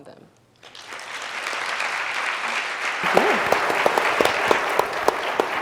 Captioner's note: audience applauds